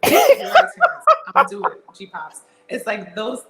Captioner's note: laugh